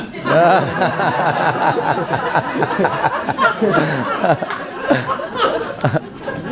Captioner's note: laughing